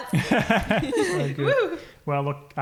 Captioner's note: laughing; wooing